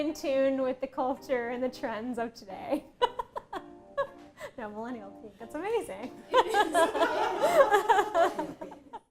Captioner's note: laughing